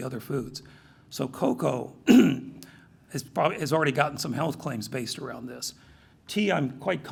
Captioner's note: cough